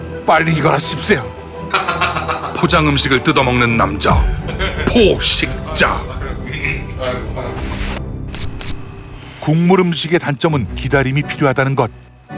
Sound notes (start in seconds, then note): 1.6 laughing